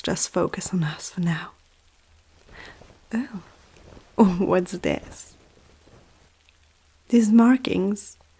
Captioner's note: fabric Rustle